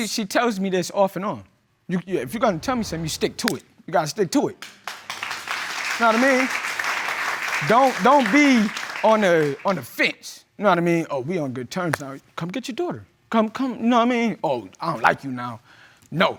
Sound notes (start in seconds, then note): 4.6 audience applauds